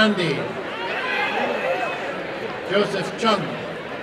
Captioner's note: applause and cheering; applause and cheering